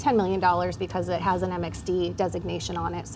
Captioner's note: none